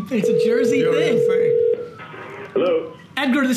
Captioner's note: phone ringing